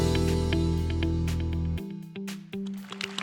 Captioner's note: applause